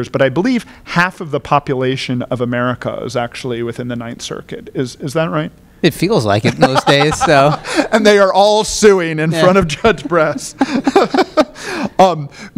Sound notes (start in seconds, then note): 6.4 laughter